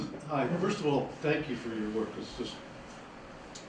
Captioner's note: voiceover